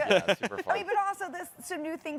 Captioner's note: chuckles